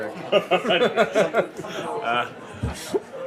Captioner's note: laughing